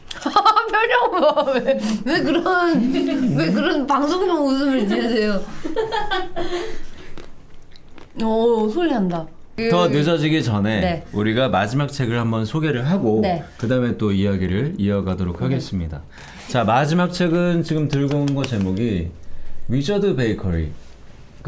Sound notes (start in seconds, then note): 7.5 crunch crunch